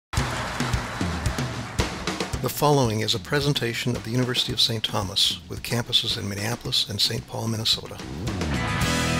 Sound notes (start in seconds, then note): 0.1 audience applauds; 8.9 upbeat fun music